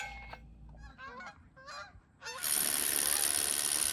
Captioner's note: geese honk